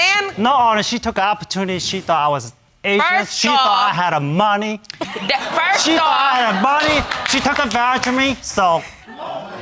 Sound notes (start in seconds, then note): 5.0 audience laughing